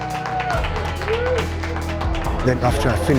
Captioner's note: cheering